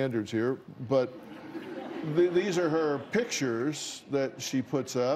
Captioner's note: laughter